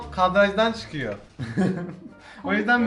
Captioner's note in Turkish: gülüyor